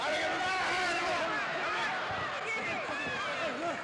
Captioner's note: people exclaiming; crowd chattering